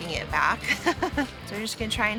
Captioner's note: laughs